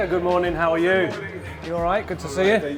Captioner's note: crowd chattering